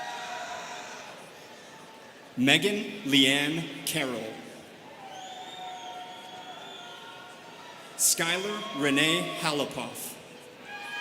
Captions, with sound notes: (students cheering) Megan Leanne Carroll. (students whistling) Skylar Renee Halopoff.